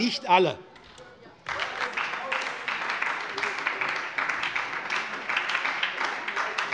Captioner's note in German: Beifall bei der SPD